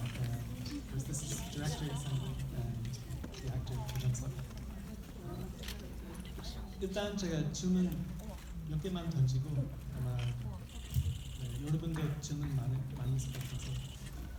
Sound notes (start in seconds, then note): 7.0 speaking in foreign language